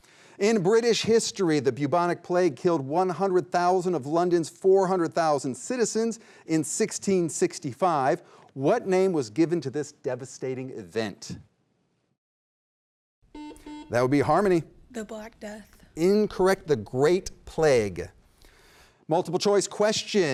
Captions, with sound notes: In British history, the bubonic plague killed 100,000 of London's 400,000 citizens, in 1665. What name was given to this devastating event? (double beep) That would be Harmony. - The Black Death. - Incorrect, the Great Plague. Multiple choice question.